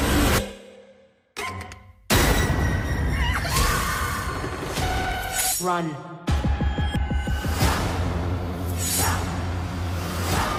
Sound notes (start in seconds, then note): 0.1 intense music; 3.1 screaming